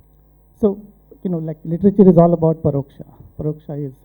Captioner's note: non-english speech